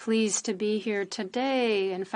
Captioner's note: speaking French